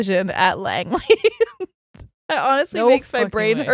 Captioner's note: laughs